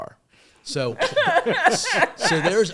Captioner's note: all laughing